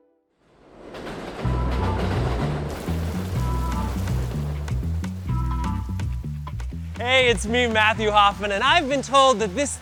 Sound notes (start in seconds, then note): 0.6 train rattles across tracks; 2.5 rain trickles; 5.1 upbeat music